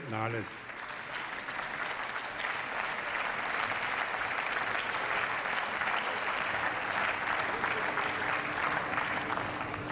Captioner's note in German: Beifall